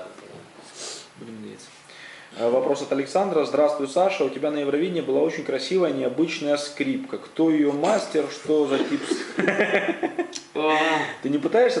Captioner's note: laughs